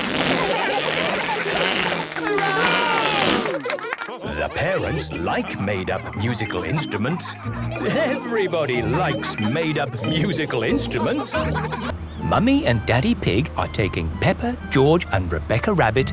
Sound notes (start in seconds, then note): 0.0 balloon squealing; 0.1 children laughing; 2.0 applause, cheering